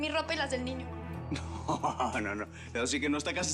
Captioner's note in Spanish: riendo